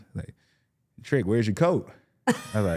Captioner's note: laughs